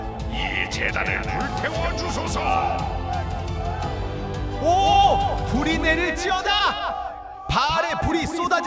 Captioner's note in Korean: 비명